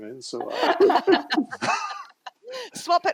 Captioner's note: laughter